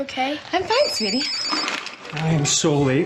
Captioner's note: phone ringing